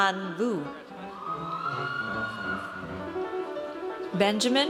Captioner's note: audience cheers